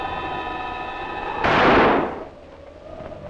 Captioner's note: gunshot